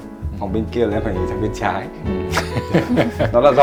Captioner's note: laugh